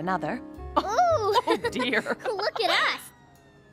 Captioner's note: laughing